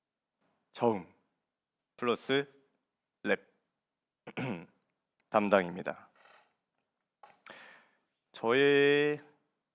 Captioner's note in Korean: 목을 가다듬음